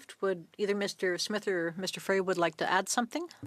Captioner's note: speaking French